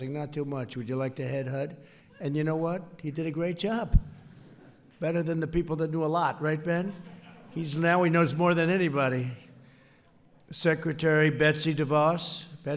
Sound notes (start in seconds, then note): 6.7 laughter